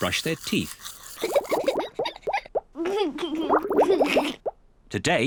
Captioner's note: giggles